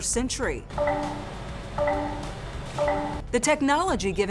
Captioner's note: beeping